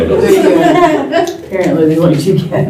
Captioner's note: laughter